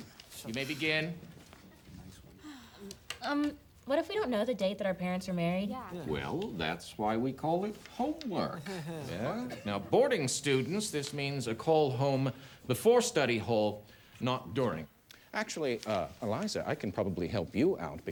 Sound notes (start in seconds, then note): 2.3 student sighs